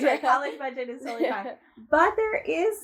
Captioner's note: laugh